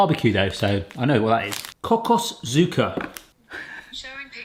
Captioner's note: speaking German